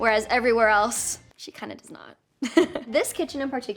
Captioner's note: laughs